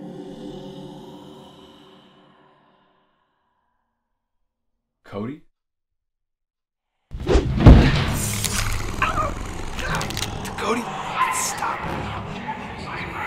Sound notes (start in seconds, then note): 8.7 JAKE gasps; 11.3 JAKE stammers